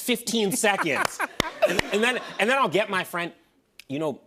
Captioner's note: laughter